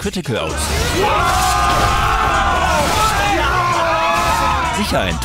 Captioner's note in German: Geschrei, Jubel